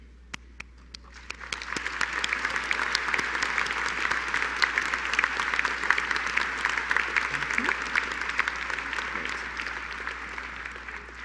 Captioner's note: applause